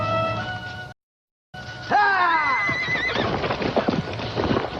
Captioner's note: yelling